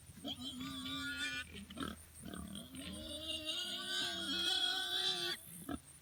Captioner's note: pigs squealing